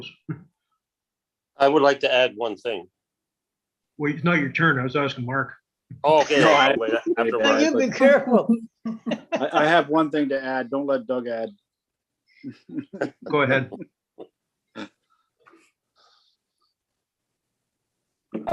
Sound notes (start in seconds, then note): 6.2 laughs; 9.0 giggles; 12.5 laughs